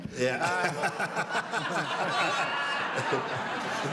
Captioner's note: laughing